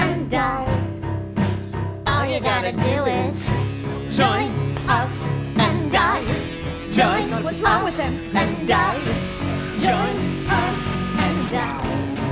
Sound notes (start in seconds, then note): 7.4 speaking